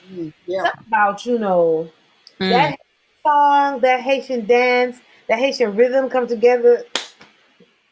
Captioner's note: claps once